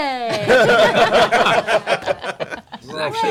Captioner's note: laughter